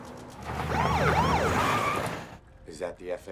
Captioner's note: siren